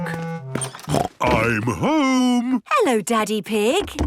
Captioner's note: snort